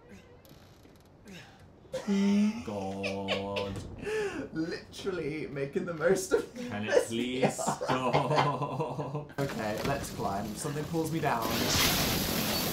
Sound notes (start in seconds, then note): 2.0 laughing; 6.9 both laugh